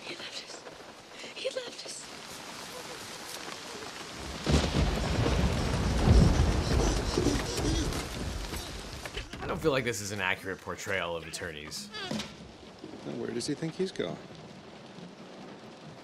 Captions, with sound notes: - He left us, he left us. (thunder cracks) (breathing heavily) - I don't feel like this is an accurate portrayal of attorneys. - Where does he think he's going?